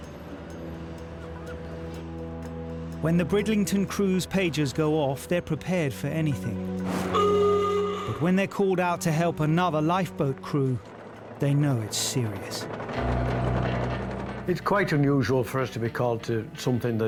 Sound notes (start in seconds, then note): 0.1 gentle music; 1.1 seagulls squawking; 7.1 siren blaring